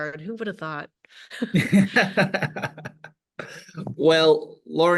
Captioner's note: laughing